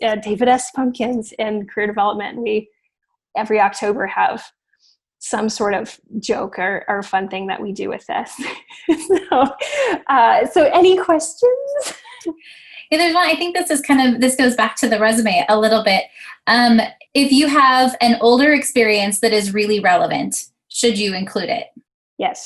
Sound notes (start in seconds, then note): 8.4 laughs; 11.8 laughs